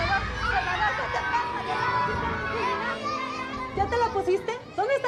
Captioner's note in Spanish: gritos y exclamaciones